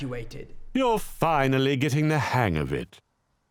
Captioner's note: voiceover